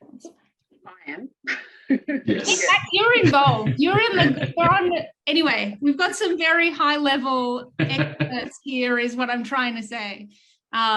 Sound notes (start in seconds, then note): 1.9 chuckles; 4.1 chuckling